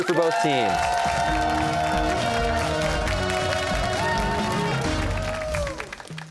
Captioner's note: cheers and applause